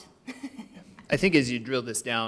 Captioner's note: laughs